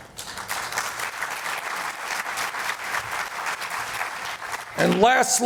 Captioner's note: applause